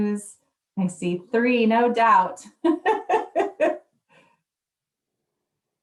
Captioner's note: laughs